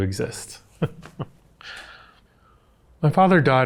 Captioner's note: chuckles